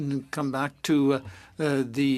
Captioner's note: speaking French